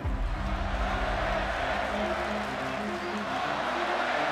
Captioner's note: crowd cheering